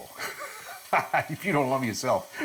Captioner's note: laughing